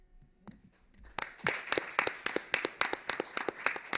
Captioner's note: applause